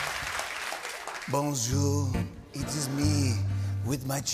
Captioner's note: French accent